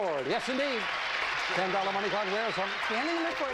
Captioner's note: audience applauding